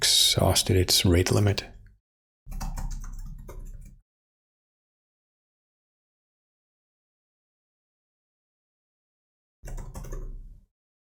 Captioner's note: blank Audio